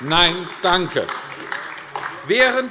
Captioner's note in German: Beifall AfD